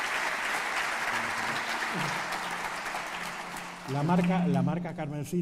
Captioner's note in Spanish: Aplausos